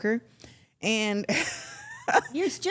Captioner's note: everyone laughs